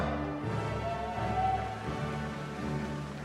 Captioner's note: cheering